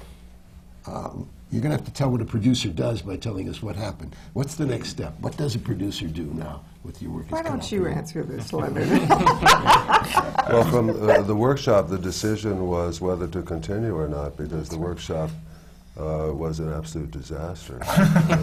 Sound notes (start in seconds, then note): 8.7 laughs